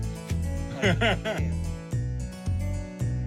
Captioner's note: laughs